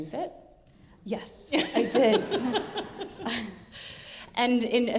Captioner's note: laughing